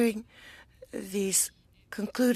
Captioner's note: speaking French